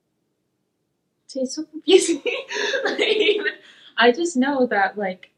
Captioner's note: laughs